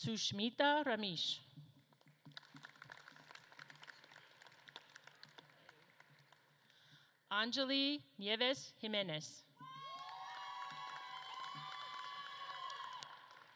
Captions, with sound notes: Sushmitha Ramesh. (audience claps) Angelie Nieves Jimenez. (audience claps and cheers)